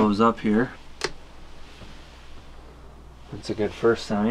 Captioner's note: switch clicks